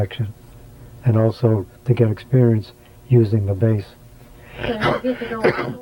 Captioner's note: coughs